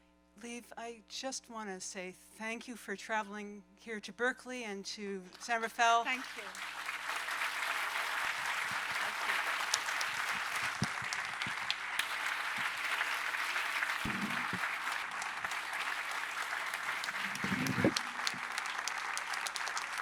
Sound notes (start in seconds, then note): 7.3 applause